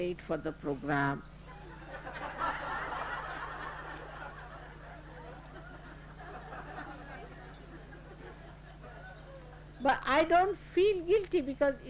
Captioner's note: laughter